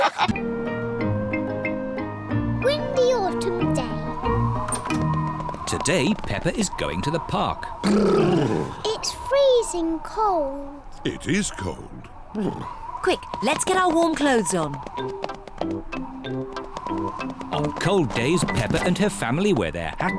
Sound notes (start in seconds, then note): 0.0 all laughing; 4.6 wind blowing; 7.8 all shiver